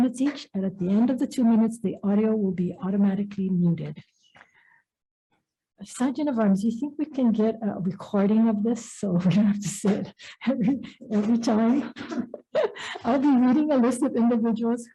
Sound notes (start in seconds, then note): 12.4 laughs